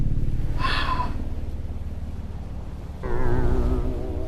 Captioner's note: air quavering; Dale sighing